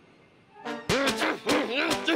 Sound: shouting

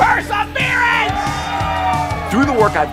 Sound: audience cheering

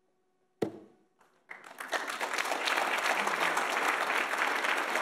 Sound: audience applauds

